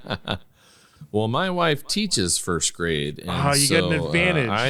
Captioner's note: laughing